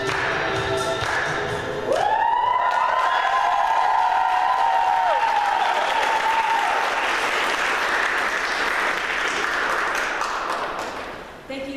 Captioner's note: applause